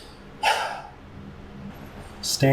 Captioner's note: heavy sigh